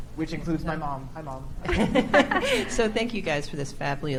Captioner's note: chuckle